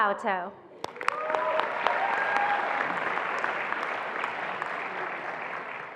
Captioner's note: attendees applauding and cheering